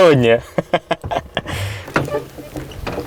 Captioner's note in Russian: смех